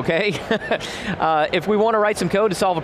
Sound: laughs

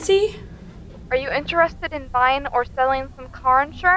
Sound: voice On Phone

